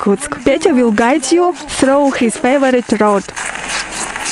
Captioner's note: laugh